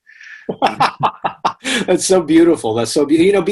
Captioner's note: laughs